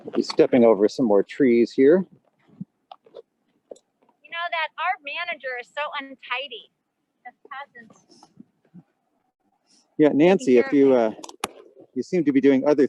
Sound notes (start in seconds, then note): 7.3 wind drowns out